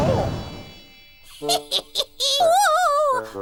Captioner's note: laughing